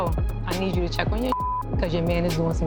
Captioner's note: beep